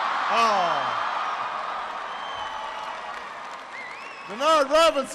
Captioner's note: applause